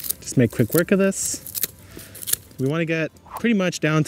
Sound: pruner snips

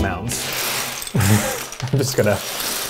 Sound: LEGOs rattling

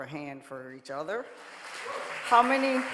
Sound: audience clapping

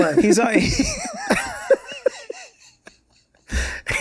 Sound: all laughing

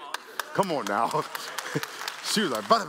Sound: applause

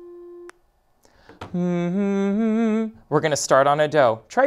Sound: hums

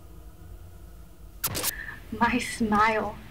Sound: cassette static

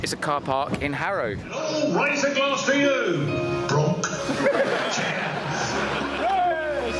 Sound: audience laughter

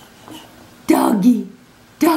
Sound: pants

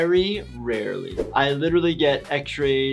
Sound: whoosh sound

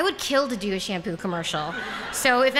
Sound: laughter

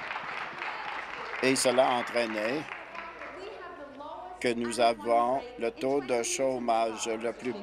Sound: applause

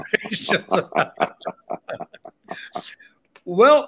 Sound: both laughing

